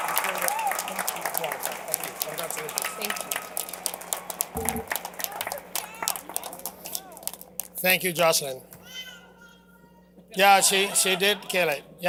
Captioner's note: cheers and applause